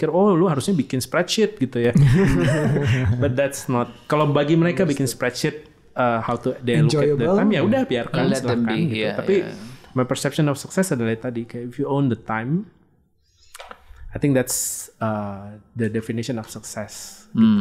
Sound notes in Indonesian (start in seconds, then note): 1.9 tertawa